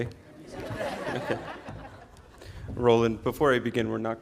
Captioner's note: audience laughing